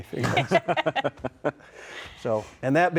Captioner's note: everyone laughing